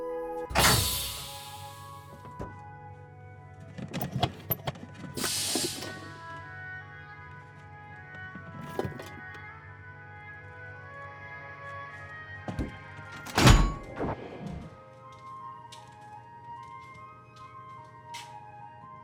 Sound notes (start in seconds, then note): 0.4 heavy door opening; 0.5 pressure releasing; 13.0 door clanging